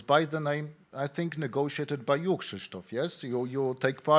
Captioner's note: speaking in foreign language